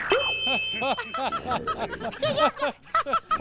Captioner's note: laughing